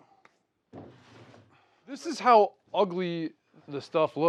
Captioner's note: wood scapes, clatters